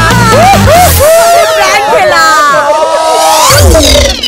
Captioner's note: Laughing